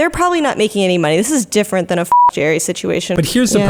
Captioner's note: beep